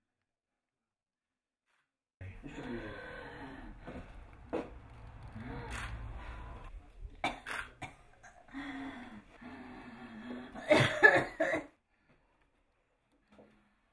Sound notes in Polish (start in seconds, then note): 7.2 kaszel